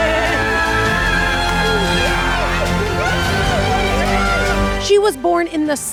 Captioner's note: triumphant music; both screaming